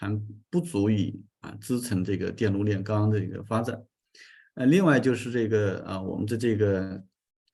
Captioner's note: continues to speak in Chinese